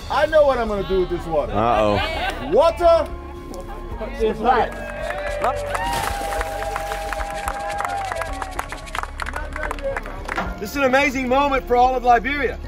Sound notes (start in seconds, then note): 5.8 crowd cheers; 5.8 loud splash